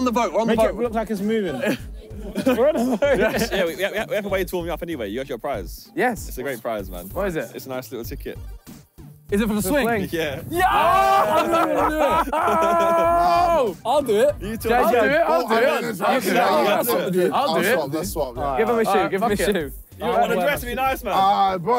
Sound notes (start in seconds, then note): 1.5 laughing; 10.5 cheering